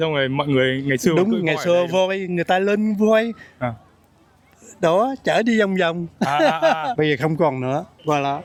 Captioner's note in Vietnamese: tiếng cười